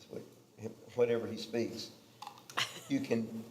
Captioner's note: laughing